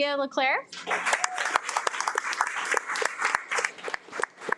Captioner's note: audience applauding